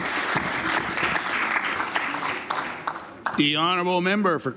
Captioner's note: applause